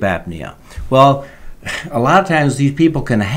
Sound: laughs

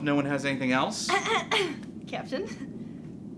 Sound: lightly clears throat

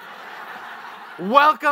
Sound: audience laughs

